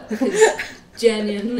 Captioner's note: laughs